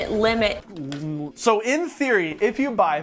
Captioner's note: groans